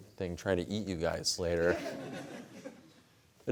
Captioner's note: laughter